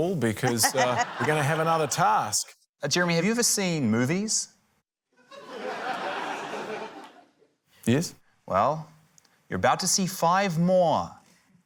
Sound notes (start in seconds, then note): 5.2 laughter